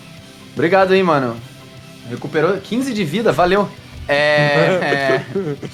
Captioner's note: laughs